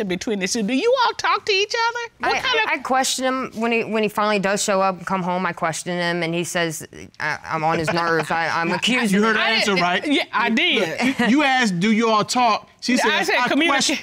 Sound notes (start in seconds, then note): 7.7 Judge Keith laughing